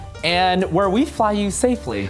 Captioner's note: none